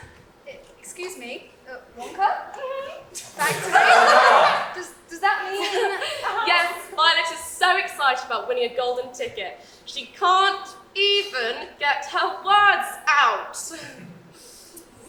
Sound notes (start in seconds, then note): 5.5 laughs